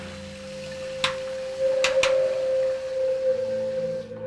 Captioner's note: switch flipped on and off